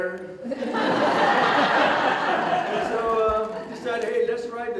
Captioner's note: audience Laughter